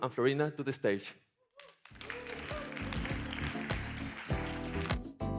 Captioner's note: applause